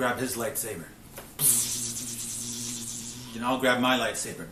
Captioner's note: imitating lightsaber